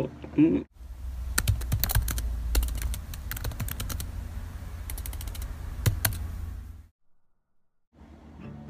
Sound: typing sounds

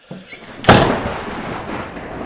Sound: thunder crash

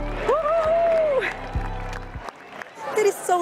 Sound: crowd cheering

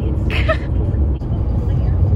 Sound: laughs

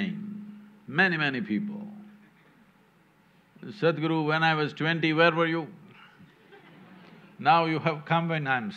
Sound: laughter

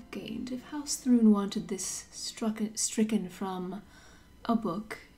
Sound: none

